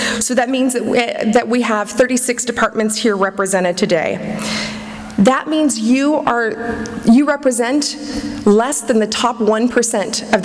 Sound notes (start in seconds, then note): none